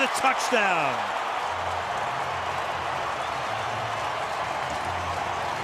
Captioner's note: cheering